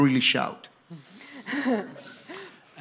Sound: laughs

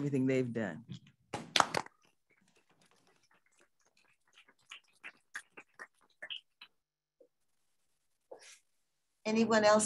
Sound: applause

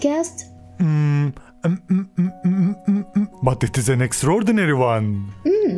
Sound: hesitates

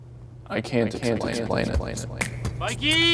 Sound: echoing

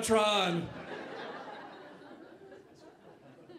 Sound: audience laughing

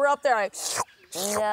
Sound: slurps

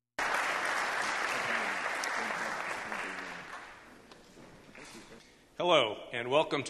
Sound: applause

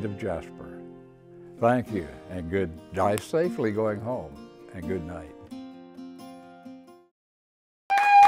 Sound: applause

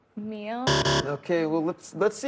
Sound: buzzer

